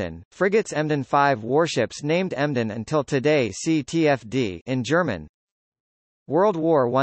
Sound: in German

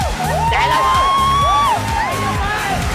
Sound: shouting

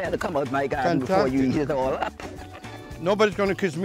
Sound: laughs

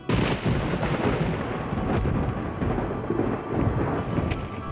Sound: thunder rumbling; thunder crashing

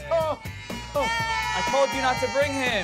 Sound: cheers

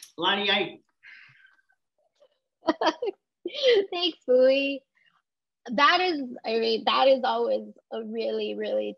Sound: laugh

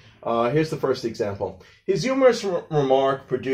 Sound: none

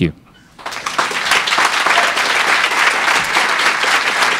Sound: crowd applauds

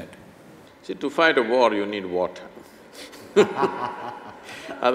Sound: laugh

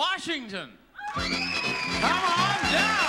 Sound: audience member screams

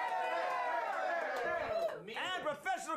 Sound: audience cheering

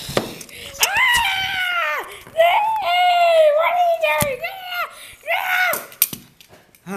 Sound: pacman screaming

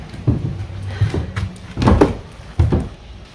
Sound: sigh

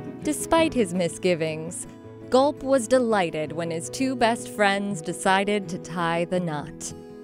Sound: none

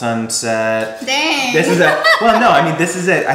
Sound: laughs

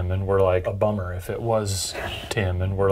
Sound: voice shushing

